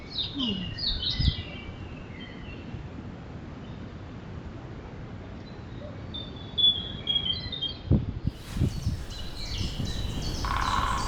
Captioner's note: birdsong; woodpecker